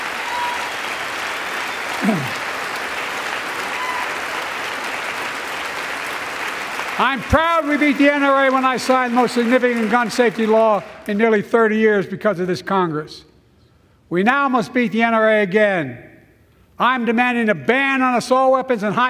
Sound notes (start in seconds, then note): 0.0 applause